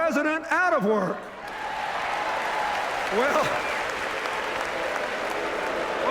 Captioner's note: chuckles; mixed cheers and boos, applause